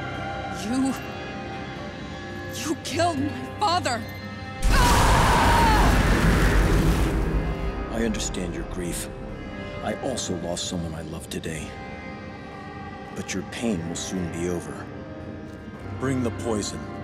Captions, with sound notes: You. You killed my father! [screaming] I understand your grief. I also lost someone I loved today. But your pain will soon be over. Bring the poison.